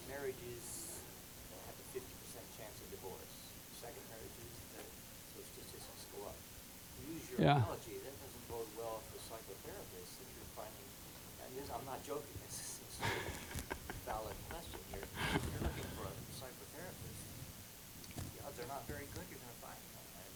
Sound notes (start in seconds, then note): 12.9 chuckling